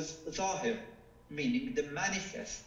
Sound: speaking foreign language

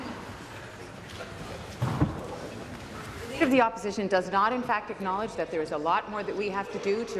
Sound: conversation din

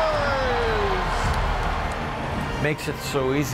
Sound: crowd cheering

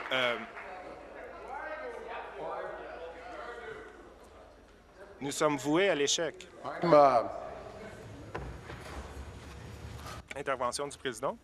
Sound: applause

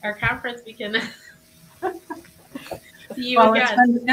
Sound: laughs

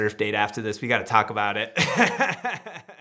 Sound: laughs

